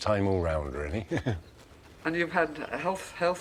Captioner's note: chuckling